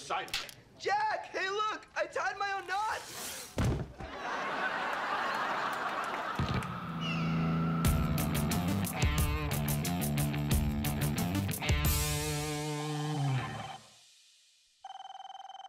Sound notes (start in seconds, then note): 12.0 phone ringing